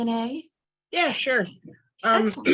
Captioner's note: clears throat